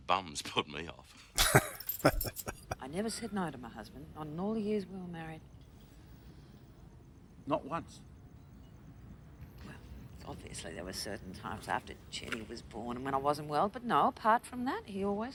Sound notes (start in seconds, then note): 1.3 chuckling